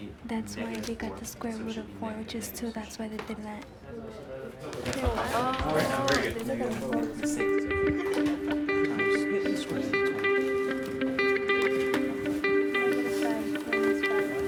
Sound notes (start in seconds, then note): 7.6 sounds of students working